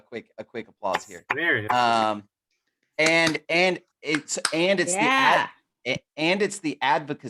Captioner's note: applause